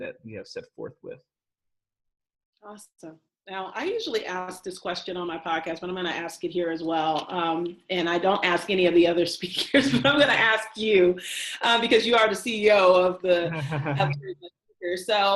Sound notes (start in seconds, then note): 9.7 both laugh; 13.3 laughs